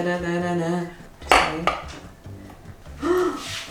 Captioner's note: gasps